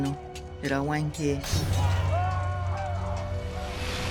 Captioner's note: men screaming